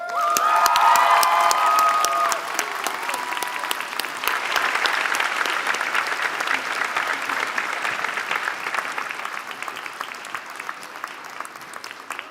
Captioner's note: applause